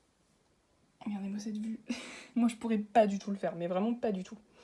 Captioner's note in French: rire